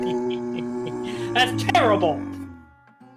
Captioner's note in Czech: sténání